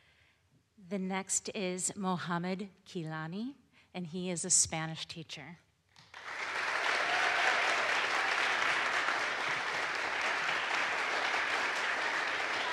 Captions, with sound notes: The next is Mohamed Kilani and he is a Spanish teacher. (audience applauds)